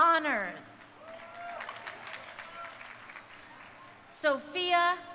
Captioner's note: crowd cheering